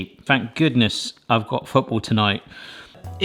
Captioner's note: none